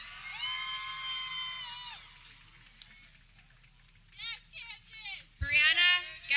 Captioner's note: people cheering